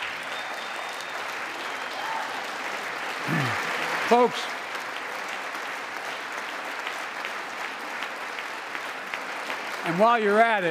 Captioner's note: applause